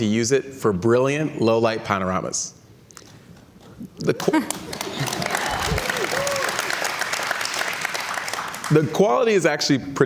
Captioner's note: cheers and Applause